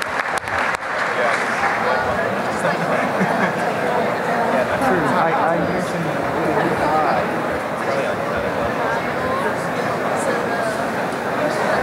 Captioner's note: applause; indistinct conversation